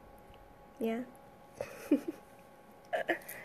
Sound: giggles

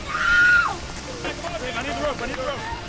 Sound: screams

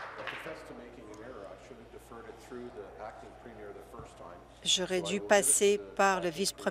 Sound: applause

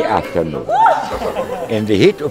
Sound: person whooping

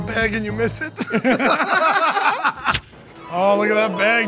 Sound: laughter

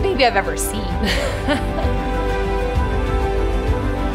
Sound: laughing; uplifting music

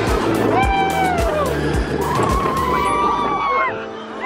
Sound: screaming; whooping

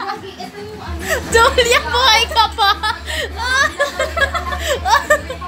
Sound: dying on her own laugh

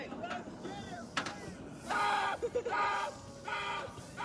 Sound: screams

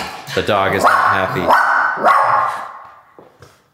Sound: barking

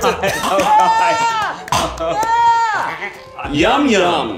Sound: cheering and screaming

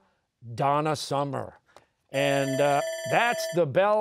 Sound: bell ringing

